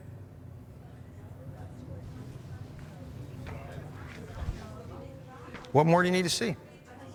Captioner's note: people chattering indistinctly